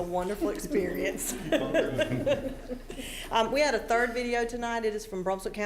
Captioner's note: laughing